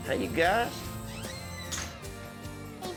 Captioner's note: door closes